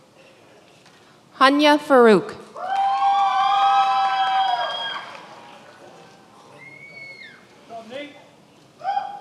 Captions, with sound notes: Hanya Farouk. (many applauding)